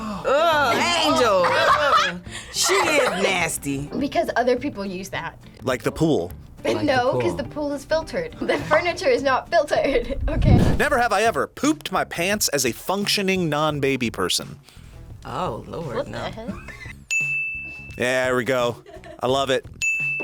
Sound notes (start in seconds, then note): 0.4 laughs; 8.4 laughs; 17.1 bell rings; 18.7 laughs